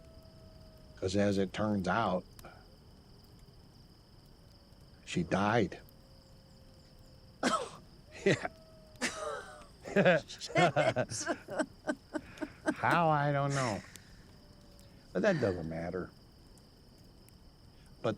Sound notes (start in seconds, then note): 7.4 coughs; 9.8 laughs